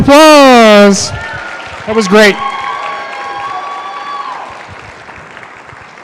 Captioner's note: cheering